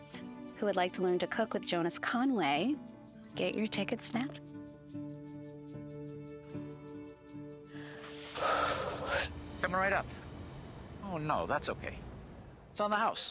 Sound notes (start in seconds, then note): 4.9 soft music; 7.6 exhales